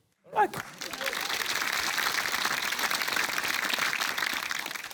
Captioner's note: applause